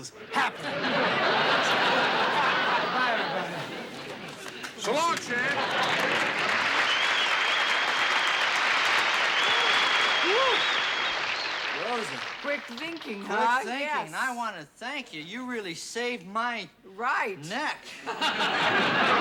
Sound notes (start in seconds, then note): 0.1 laughter; 5.5 cheering; 17.8 laughter